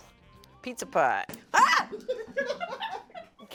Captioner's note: screams; crew laughs